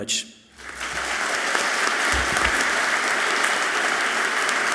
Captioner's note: audience clapping loudly